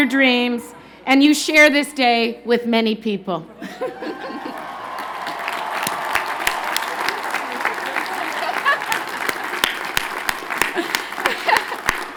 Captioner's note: cheers and Applause